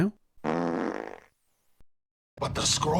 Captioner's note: fart noise